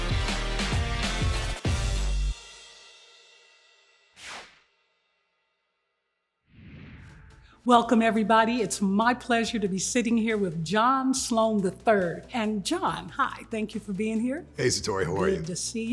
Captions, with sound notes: (air whooshing) - Welcome everybody. It's my pleasure to be sitting here with John Sloan, III and John, hi, thank you for being here. - Hey, Satori, how are you?